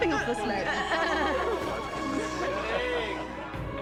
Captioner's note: all laughing